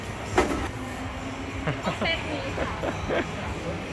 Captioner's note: laughing